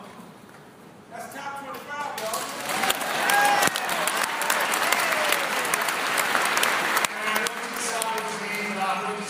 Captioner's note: applause